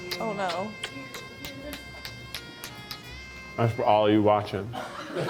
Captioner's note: lip smacking; romantic music